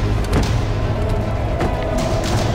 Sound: doors slam

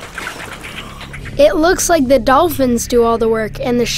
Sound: voiceover

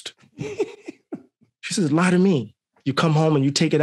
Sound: laughing

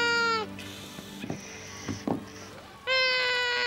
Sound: child whining

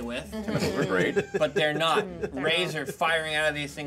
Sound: speaker laughs

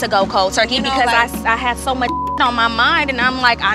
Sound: beep

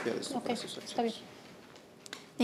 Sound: speaking Spanish

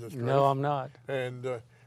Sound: voiceover

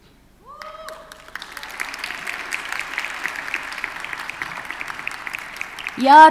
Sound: audience cheers and applauds

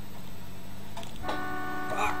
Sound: car horn

